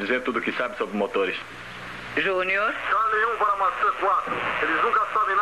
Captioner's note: Collins On Radio